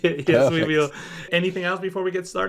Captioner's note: laughs